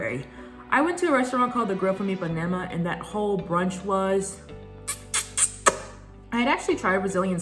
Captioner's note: chef’s kiss